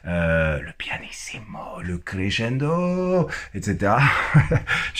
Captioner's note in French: Il rit